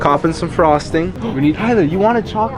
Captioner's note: gasps